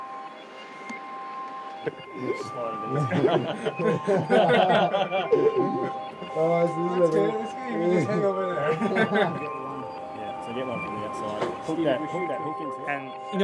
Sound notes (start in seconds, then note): 1.8 mixed chatter/laughter